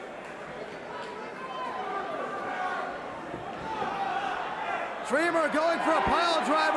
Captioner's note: crowd chatter